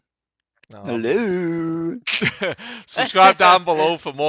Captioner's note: laughs